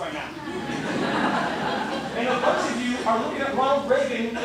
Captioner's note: laughter